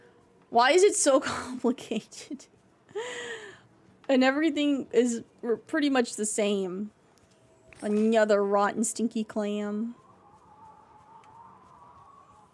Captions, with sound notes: Why is it so complicated? [Distressed Laughter] And everything is pretty much the same. Another rotten, stinky clam.